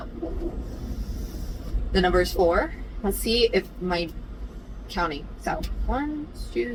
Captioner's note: inhales loudly